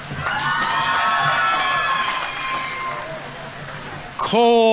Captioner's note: audience members cheering; audience applauding